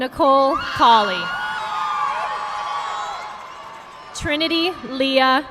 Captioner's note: audience clapping